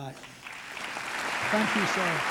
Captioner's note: applause